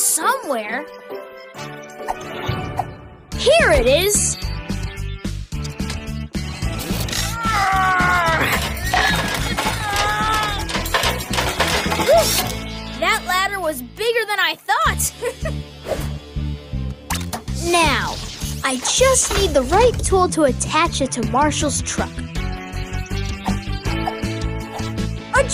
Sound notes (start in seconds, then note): 7.2 Marshall Groans; 7.4 Rocky Groans; 15.0 laughs